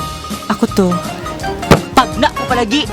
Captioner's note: slams table